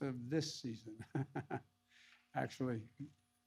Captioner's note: laughs